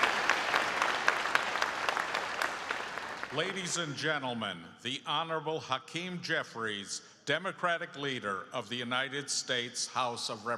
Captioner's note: applause